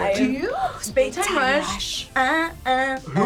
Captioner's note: whispers